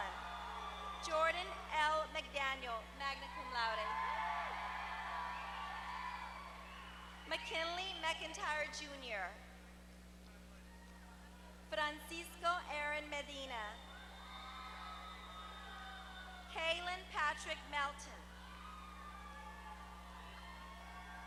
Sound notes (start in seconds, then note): 0.0 applause; 3.8 applause; 14.0 applause; 19.4 applause